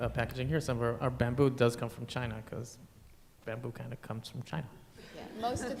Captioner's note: laughter